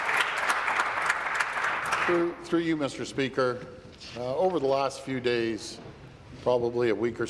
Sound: applause

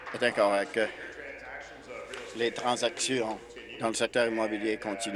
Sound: applause

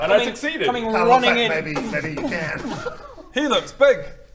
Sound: boom boom boom

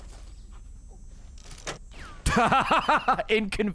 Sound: laughs

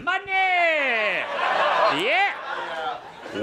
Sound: audience laughing

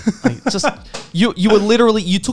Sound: laughing

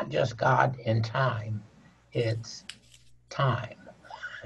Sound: laughing

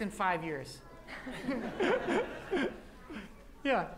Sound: laughter

